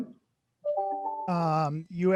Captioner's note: beep